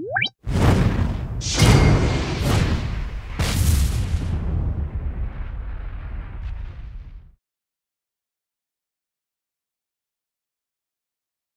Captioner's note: whooshing sounds